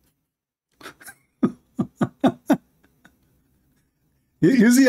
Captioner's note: Ketawa